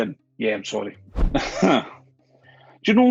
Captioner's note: chuckles